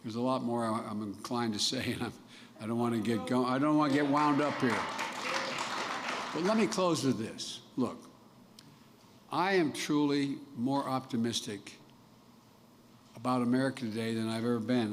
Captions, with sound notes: There's a lot more I'm inclined to say, and I -- I don't want to get go- -- I don't want to get wound up here. (Applause.) But let me close with this: Look, I am truly more optimistic about America today than I've ever been.